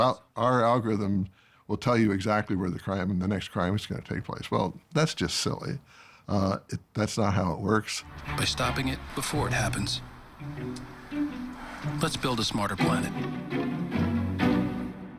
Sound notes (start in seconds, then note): 11.4 sighs